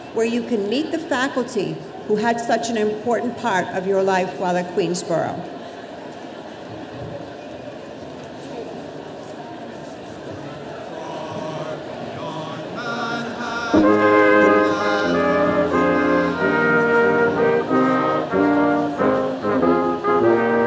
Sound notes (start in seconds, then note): 10.7 off mic; 13.3 background music begins; 16.6 off mic